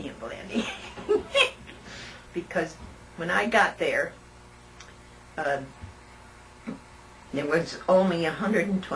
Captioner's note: laughter